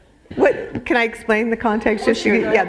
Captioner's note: laughter